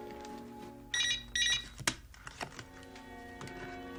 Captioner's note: telephone rings